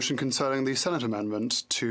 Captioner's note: speaking French